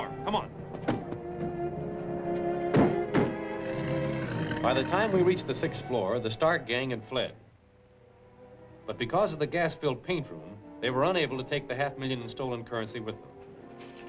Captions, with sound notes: Come on. [CAR DOORS SHUTTING] [ENGINE ACCELERATING] By the time we reached the sixth floor, the Stark gang had fled. But because of the gas-filled paint room, they were unable to take the half million in stolen currency with them.